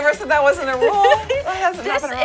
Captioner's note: laughs